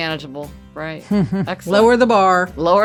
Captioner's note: laughing